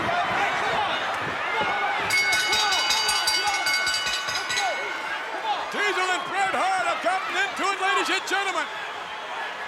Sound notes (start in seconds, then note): 2.1 bell dinging